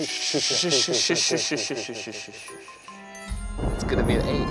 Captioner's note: shushing